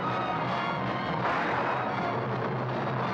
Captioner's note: gunshot